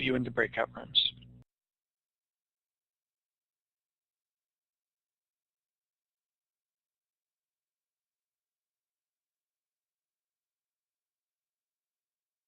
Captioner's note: silence